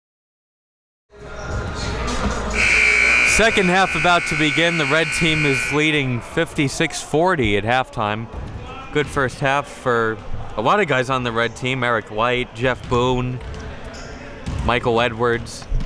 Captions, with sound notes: (uptempo music) (buzzer dingS) Second half about to begin. The red team is leading 56-40 at halftime. The first half for a lot of guys on the red team, Eric Leite, Jeff Boone, Michael Edwards.